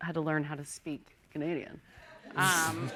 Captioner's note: laughter